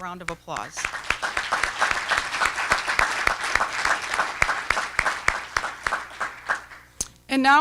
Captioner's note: applause